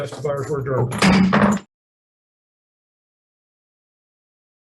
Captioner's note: gavel bangs